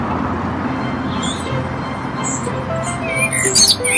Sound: traffic fades; blackbird sings

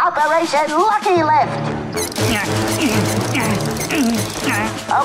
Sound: grunting

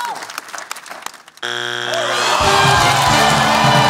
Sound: buzzer sounds

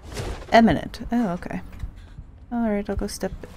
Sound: none

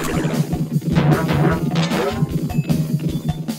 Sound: bouncing

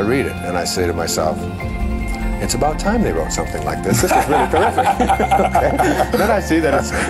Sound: laughter

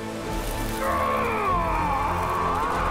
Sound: pained cries

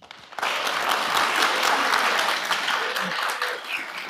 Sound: attendees applaud

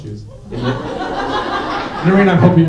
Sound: laughter

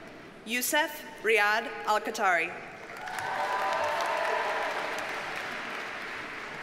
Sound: audience cheers and applauds

